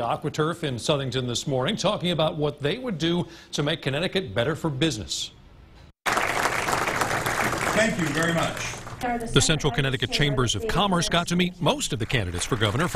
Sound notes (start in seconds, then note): 11.8 applause